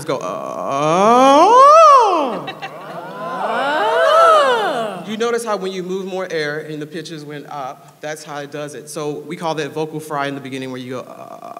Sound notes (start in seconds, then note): 0.2 low growl rising to high pitch and back down; 2.7 audience mimics sound